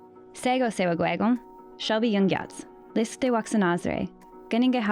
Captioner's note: speaking an Indigenous language